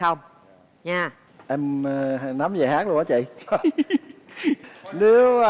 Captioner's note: laughing